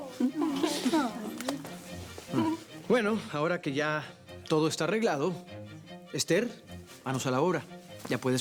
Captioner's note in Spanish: Risas y exclamaciones